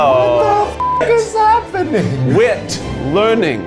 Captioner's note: beep